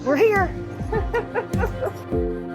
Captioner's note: female laughing